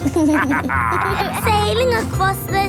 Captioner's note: captain dog and kids laughing